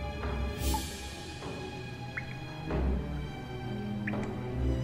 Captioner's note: water dripping